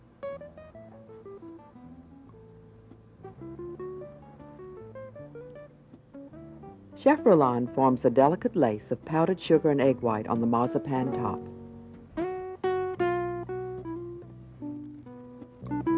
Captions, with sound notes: (calm music) - [Voiceover] Chef Roland forms a delicate lace of powdered sugar and egg white on the marzipan top. (calm music)